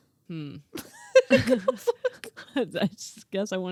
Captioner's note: laughing